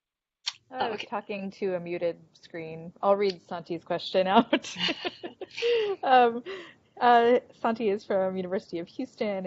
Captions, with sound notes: >> Alright talking to a muted screen. I'll read Santi's question out. (laughing) Santi is from University of Houston